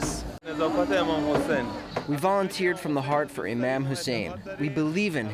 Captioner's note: through translator